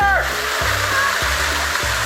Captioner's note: water fall splashes